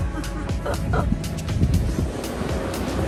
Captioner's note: laughs